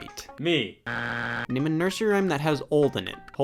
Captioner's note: buzzer beeps